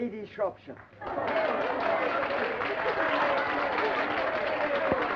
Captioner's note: applause and cheering